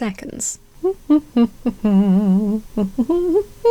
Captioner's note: hums nonchalantly